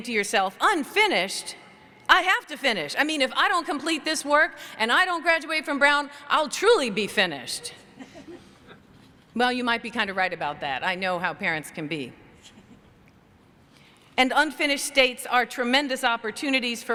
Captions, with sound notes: to yourself, "Unfinished? I have to finish. I mean, if I don't complete this work and I don't graduate from Brown, I'll truly be finished." Well, you might be kind of right about that. I know how parents can be. [CHUCKLING] And unfinished states are tremendous opportunities